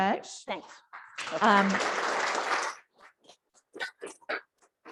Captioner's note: audience claps